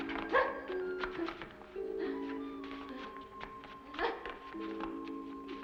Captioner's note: woman grunts; strange female grunting sounds; ominous music